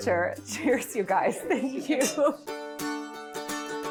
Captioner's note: laughing